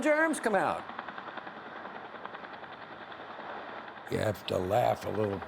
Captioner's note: helicopter blades churning